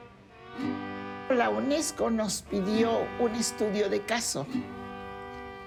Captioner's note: in Spanish